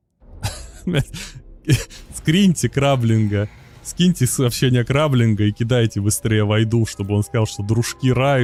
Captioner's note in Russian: смех